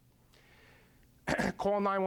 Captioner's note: clearing throat